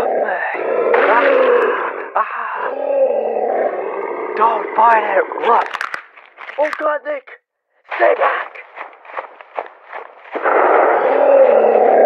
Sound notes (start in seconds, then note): 5.4 Neck snaps from the SCP putting his paws and pushing down on his neck